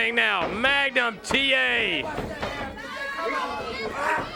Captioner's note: crowd chatter